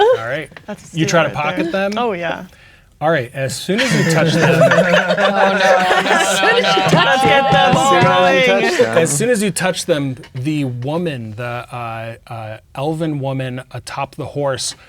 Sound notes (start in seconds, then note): 3.7 players laughing; 8.1 players talking and laughing